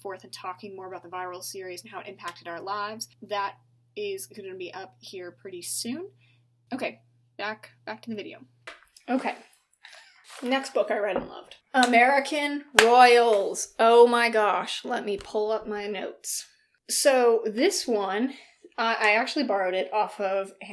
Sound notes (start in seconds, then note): 9.5 sip